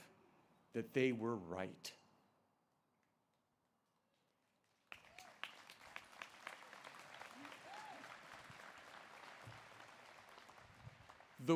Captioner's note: applause